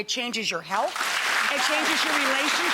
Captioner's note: audience applauding